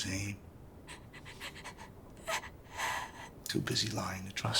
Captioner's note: sobbing